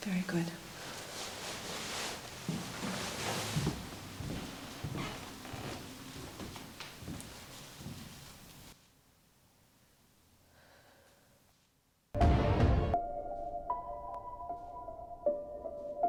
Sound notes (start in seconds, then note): 10.6 Nellie sighs; 12.2 ominous music